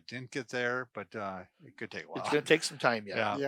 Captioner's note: laughs